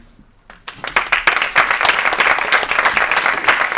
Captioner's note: applause